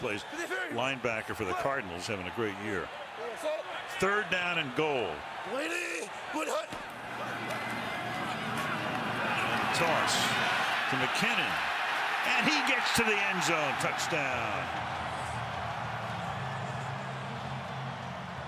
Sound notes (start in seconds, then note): 8.7 cheering